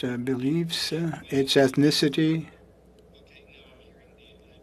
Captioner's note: speaking French